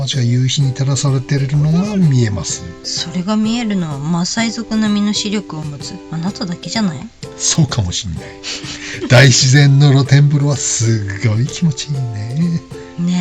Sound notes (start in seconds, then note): 8.4 laughs